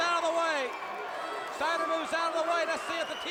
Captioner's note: crowd cheering